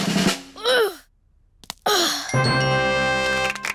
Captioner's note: drum roll; groans